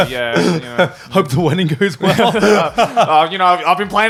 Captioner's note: chuckles